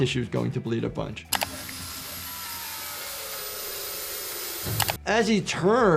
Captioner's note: chainsaw whirring